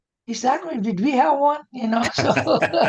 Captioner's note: laughter